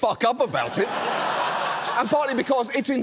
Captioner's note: studio audience laughs